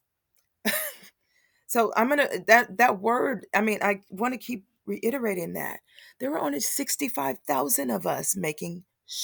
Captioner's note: laugh